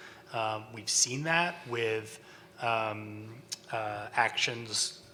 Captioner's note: stutters